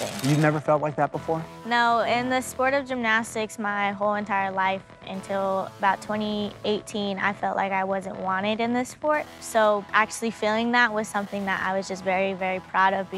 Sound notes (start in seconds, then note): none